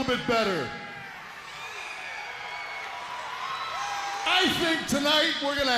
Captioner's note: crowd cheering